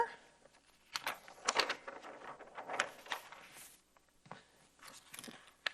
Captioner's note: paper shuffling